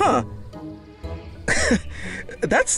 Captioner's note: chuckles